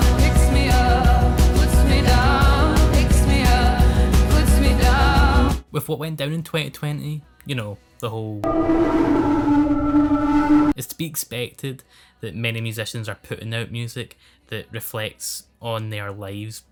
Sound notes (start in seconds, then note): 8.4 distorted noise